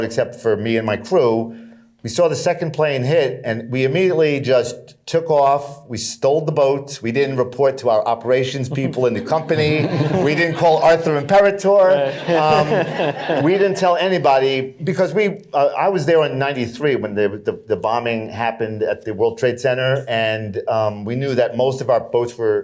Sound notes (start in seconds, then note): 8.5 laughter